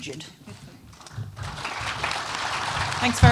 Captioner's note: applause